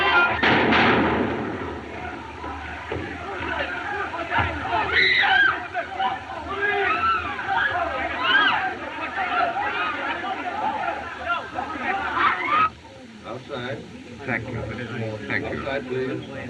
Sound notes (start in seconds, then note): 0.4 gunshots; 4.7 clamoring; 4.7 woman Screams